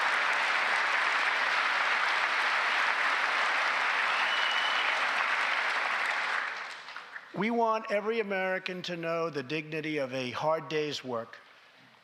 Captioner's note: applause